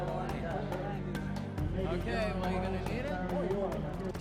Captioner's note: voiceover